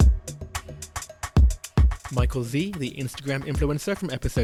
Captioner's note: voiceover